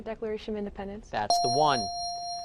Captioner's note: dinging